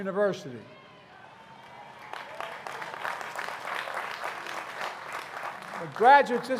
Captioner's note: applause